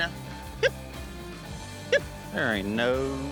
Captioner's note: calling